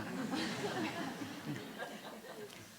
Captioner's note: laughter